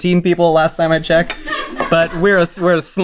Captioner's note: crew laughing